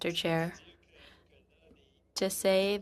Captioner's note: speaking French